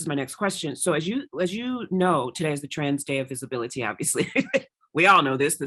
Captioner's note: laughs